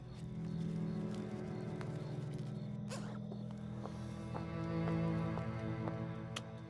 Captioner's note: insects buzzing; tense music